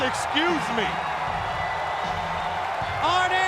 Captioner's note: crowd cheering